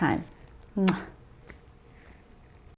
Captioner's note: lip smacking